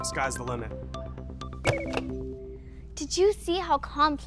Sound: beeps

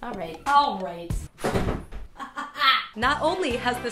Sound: banging

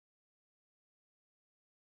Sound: none

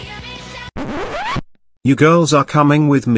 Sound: record scratch

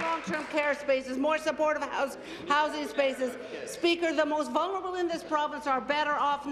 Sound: applause

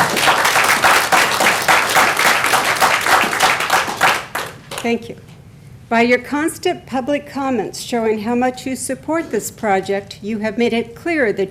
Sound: applause

